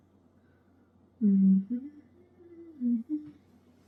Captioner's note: hums